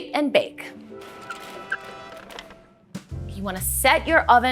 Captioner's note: horns; cart wheels